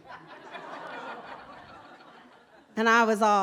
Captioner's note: laughter